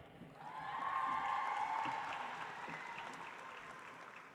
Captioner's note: audience applauds